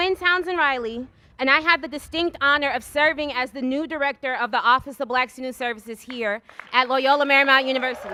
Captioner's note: cheers and applause